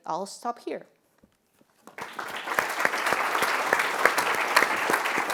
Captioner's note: applause